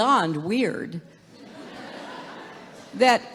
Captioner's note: laughter